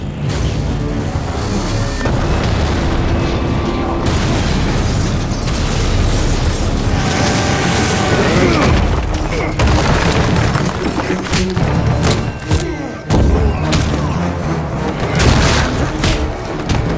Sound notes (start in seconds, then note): 0.1 dramatic music; 2.1 explosion booms; 7.5 Butcher screaming; 9.4 Homelander grunts; 9.4 wall clatters; 11.9 dramatic music; 11.9 punches thudding